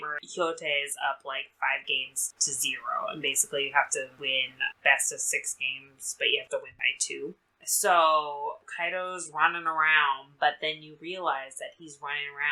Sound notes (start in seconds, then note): none